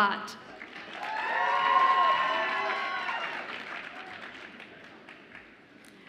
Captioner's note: audience applauds and cheers